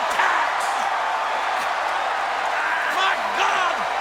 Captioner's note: crowd cheers